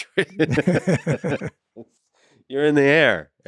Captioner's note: laughing; laughs